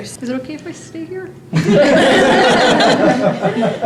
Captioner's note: laughter